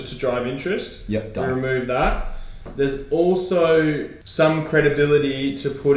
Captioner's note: phone beeping